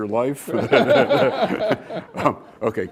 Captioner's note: laughter